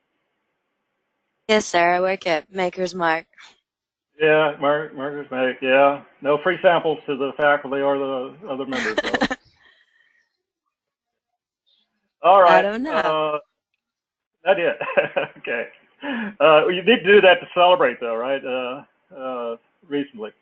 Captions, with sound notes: >> Yes, sir, I work at Makers Mark. Yeah, Markers Make, yeah. No free samples to the faculty or the other members though. >> [LAUGH] I don't know. >> All right, I did. [LAUGH] Okay. You did of that to celebrate though, right, reasonably.